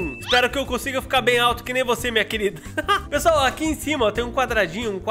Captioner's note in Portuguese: risos